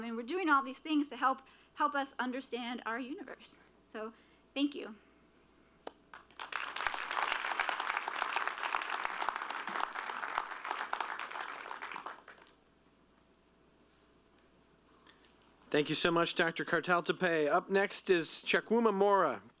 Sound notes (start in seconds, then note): 6.1 applause